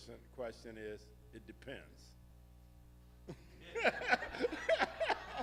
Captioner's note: laughing heartily